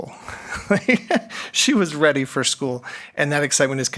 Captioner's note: chuckles